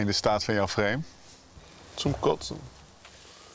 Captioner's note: in German